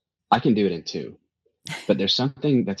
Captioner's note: laughs